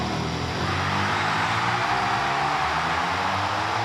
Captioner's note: applause